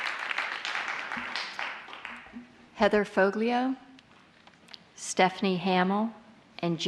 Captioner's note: applause